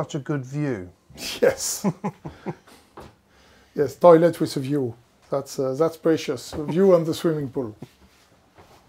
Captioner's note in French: rires